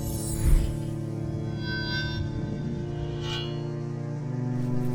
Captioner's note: metallic shimmering hum